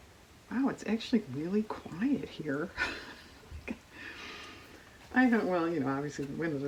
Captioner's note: laughs